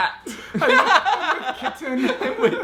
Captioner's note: laughing